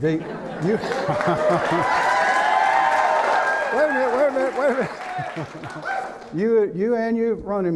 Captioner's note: laughing and clapping